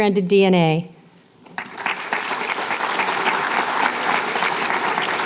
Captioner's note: applause